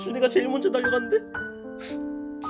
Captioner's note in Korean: 훌쩍